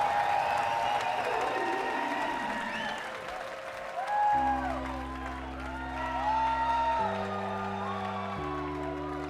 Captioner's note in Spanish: Aplausos